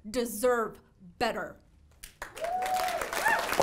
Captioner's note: cheering and applause